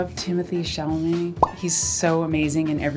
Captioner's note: popping sound